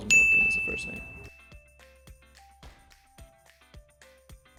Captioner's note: bell chimes